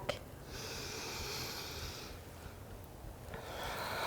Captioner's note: deep breaths